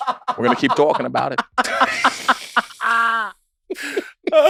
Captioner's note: group laughs